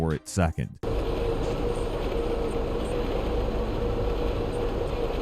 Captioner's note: machinery whirring